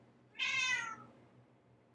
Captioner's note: Espresso meows